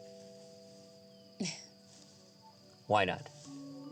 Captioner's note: chuckles